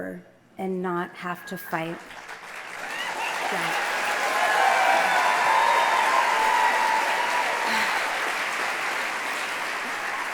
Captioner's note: applause